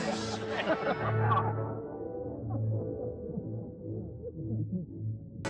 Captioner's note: voice warbles